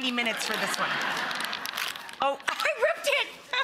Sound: laughing

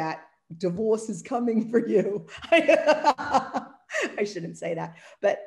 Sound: laughs

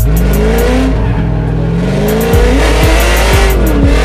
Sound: engine revs

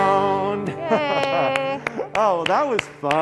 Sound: clapping

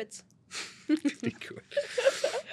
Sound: both laugh

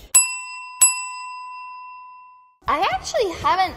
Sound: bell ringing

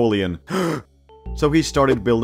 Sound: gasp

